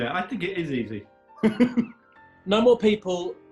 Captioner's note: chortling; sniggers